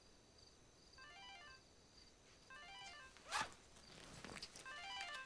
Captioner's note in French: Sonnerie de portable